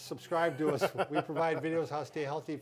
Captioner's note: laughing